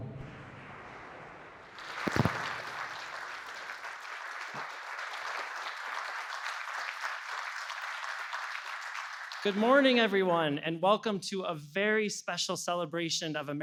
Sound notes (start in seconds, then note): 1.7 applause